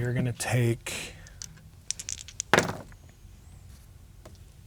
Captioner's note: dice rolling